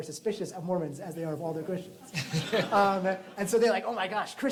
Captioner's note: laughter